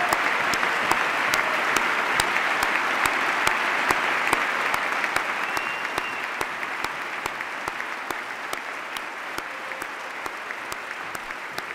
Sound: cheers, applause

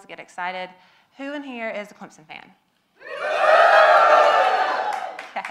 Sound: audience yells together

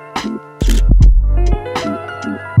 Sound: camera shutter clicks

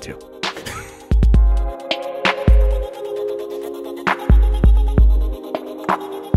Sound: upbeat music; chuckles

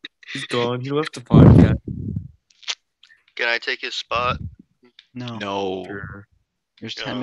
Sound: kissing Sounds

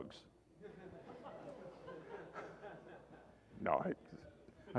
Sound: laughter

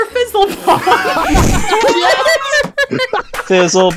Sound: laughter

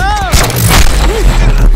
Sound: gunshot

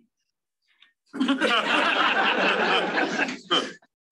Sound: laughter

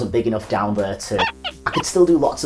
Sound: squeak squeak

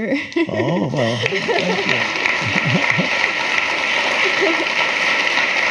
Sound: laughs; audience clapping

